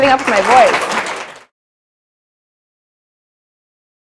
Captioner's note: applause